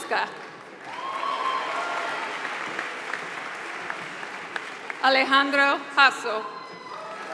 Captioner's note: applause